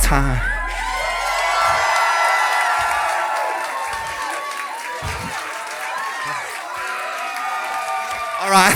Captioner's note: crowd screams